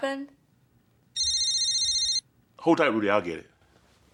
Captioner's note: phone ringing